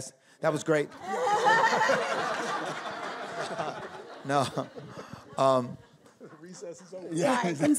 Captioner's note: audience laughing